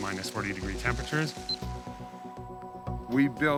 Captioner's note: machine beeps